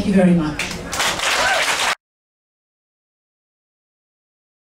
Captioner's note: audience applauding